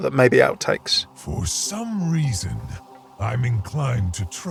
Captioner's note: voiceover